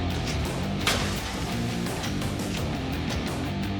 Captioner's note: sand spilling